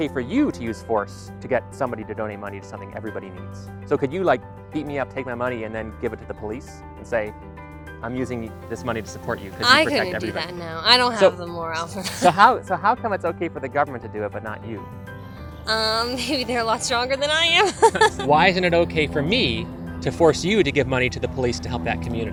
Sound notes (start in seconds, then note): 17.3 laugh